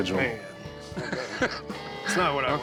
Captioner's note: Rick laughs